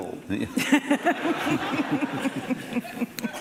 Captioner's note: laughing